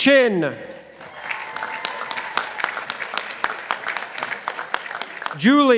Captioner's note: participants applauding